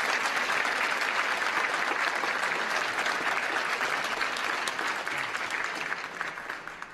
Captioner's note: applause